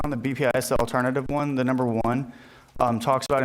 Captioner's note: none